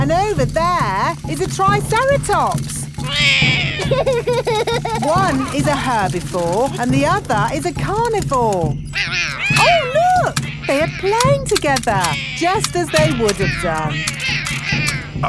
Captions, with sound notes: And over there is a triceratops. -(ROARS) -(LAUGHS) One is a herbivore and the other is a carnivore. Oh, look! They are playing together, just as they would have done.